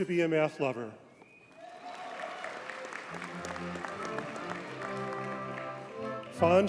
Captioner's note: audience cheers and applauds